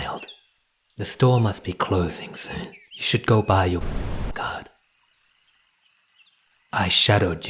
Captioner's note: static